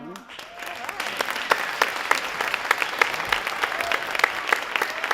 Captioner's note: audience applauding